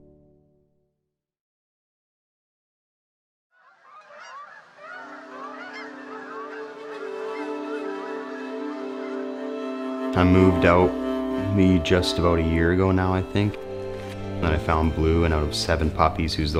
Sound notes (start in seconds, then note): 3.6 ravens croaking